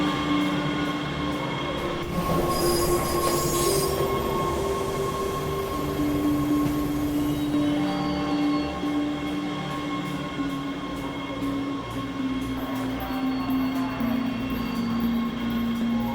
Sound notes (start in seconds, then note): 2.6 train rattling; 12.7 announcer faintly speaking